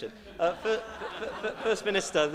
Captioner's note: laughter